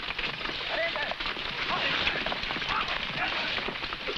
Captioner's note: men shouting